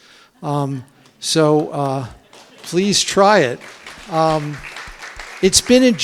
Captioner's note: clapping